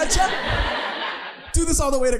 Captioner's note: audience laughing